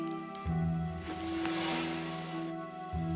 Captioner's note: hisses